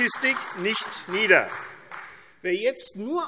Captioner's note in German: Beifall AfD